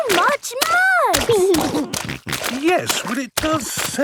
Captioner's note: snorting